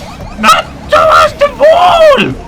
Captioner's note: none